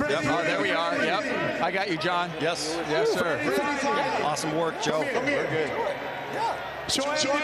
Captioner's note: speaking in native tongue